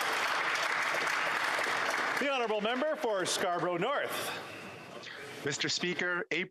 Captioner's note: applause